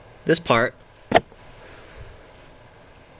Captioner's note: pop sound